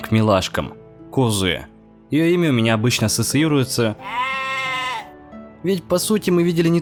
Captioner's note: the sound of a lamb